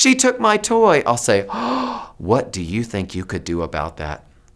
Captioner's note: gasps